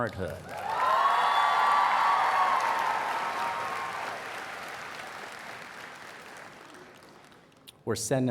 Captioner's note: cheers and Applause